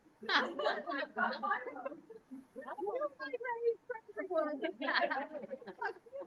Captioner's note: board members laugh and speak faintly